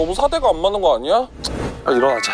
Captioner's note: tsk